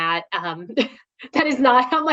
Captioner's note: laughs